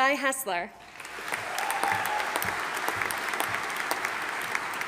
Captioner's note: audience applauding